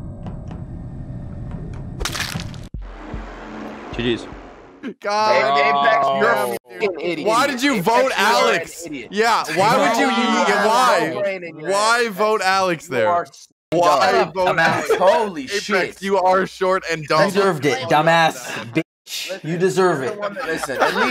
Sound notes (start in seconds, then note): 0.3 footsteps; 2.0 knife stab